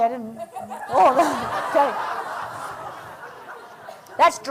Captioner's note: laughter